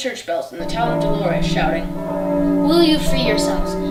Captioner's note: bell sounds